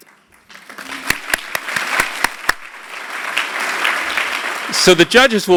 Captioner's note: applause